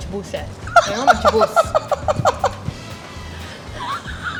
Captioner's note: woman laughs; upbeat music